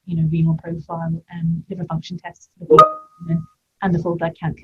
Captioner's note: beep